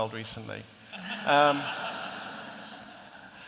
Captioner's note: laughter